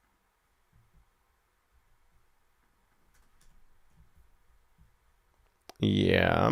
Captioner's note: clicks mouse